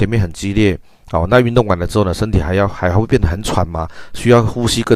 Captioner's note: increased respiratory rate